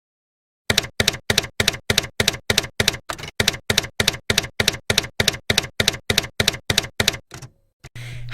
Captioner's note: typewriter keys clacking